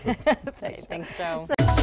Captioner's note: laughter